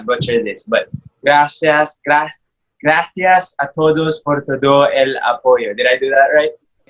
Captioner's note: in Spanish